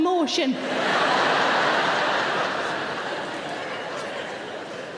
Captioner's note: audience laughing